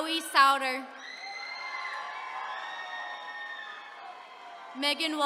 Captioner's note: attendees cheering